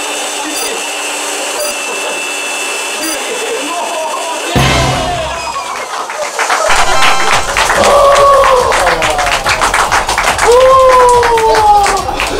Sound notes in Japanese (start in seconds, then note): 5.0 歓声と笑い; 5.4 拍手の音; 6.6 ファンファーレの音